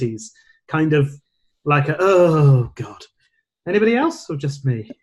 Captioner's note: groans